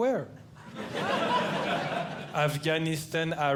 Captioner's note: audience Laughing